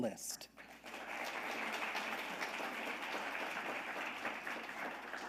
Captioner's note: audience applauding